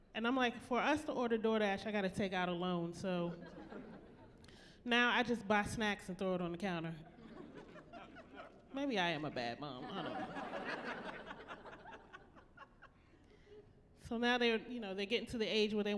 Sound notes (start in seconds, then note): 7.1 chuckling; 9.8 laughing